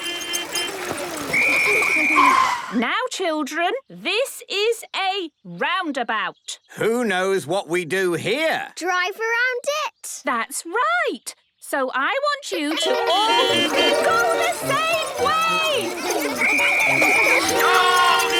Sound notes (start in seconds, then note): 0.0 whistle blowing; 12.8 beeping; 16.3 whistle blowing